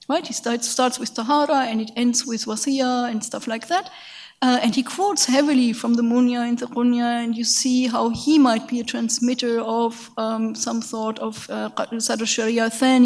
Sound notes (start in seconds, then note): 0.8 speaks in a foreign language; 5.7 speaks in a foreign language; 10.8 speaks in a foreign language